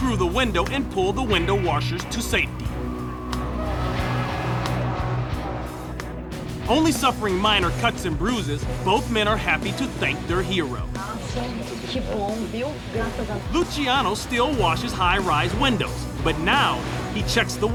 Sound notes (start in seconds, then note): 12.1 speaking spanish